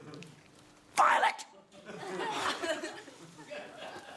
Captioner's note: whispers